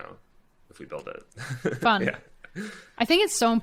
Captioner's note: chuckles